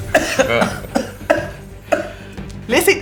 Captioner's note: Riz'shar coughs